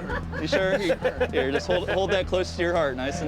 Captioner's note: laughter